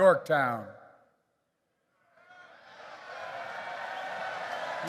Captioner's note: applause